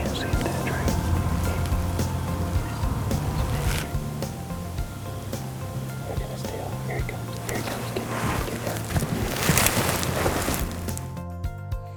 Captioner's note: whispering